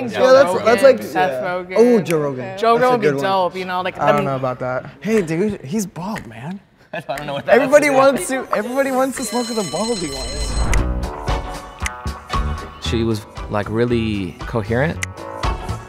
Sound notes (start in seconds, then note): 8.9 bell rings; 15.6 upbeat music